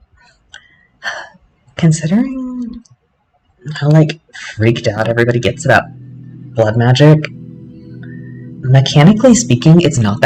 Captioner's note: sigh